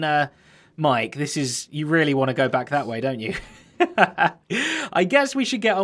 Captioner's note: chuckles